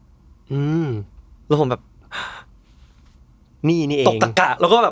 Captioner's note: gasp